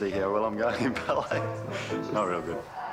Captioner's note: chuckles